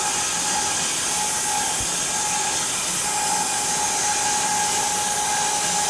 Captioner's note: sawing machine whirring continues